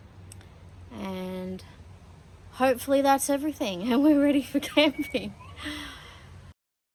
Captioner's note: laughing